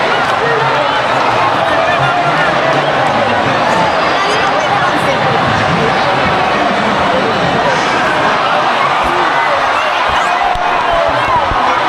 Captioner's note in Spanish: ovación